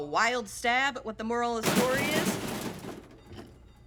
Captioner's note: metallic clatter outside